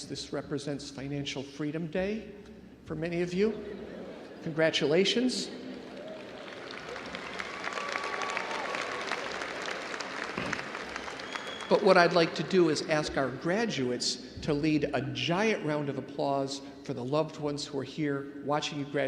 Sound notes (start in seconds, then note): 3.4 crowd laughs; 5.5 crowd cheering and applauding